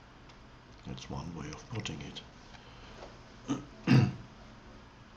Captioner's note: clears throat